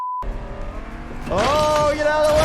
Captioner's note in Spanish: motor de carro acelerando